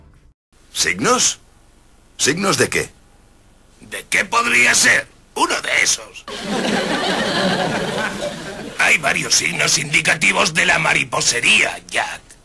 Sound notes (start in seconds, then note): 6.3 canned laughs